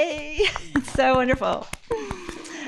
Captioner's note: audience clapping